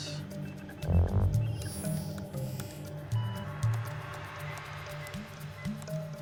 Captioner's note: computers beeping; dramatic music